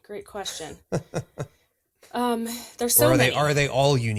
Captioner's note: laughs